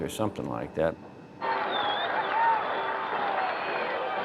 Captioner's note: crowd cheering and applauding